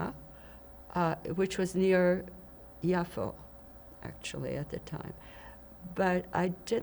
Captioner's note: hebrew; hebrew